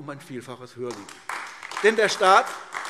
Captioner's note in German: Beifall AfD